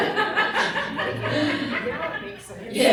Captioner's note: laughter